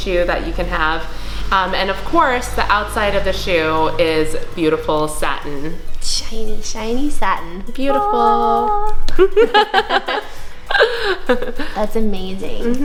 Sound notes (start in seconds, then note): 7.4 angelic singing; 9.1 laughter